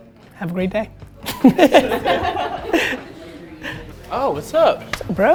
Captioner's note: group laughter